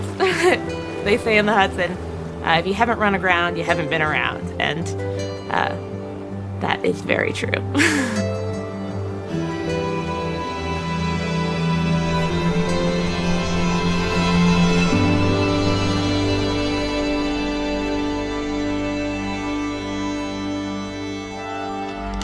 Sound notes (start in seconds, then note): 7.7 laughs; 9.6 gentle music continues